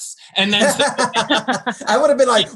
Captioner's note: all laugh